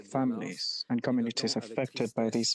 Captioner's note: speaking French